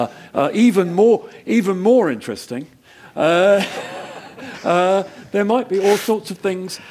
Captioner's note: laugh